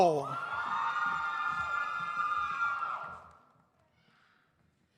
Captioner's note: audience cheers